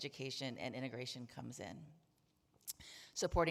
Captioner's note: none